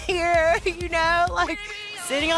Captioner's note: laughs